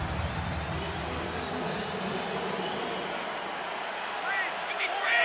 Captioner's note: pa announcement